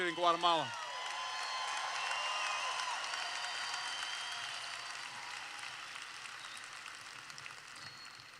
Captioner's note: cheers